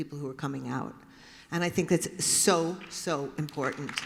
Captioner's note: applause